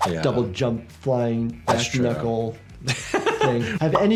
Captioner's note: laughs